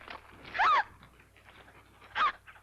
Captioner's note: Nellie gasps